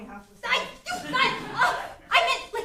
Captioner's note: angry princess noises